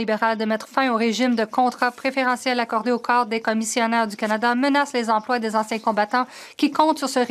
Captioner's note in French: voix de l'interprète